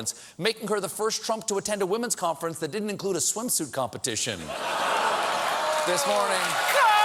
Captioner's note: applause; laughter